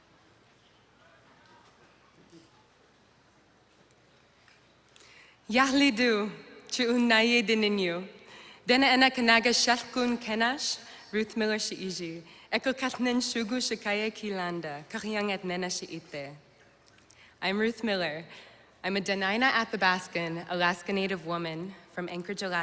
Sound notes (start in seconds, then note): 5.5 non-english speech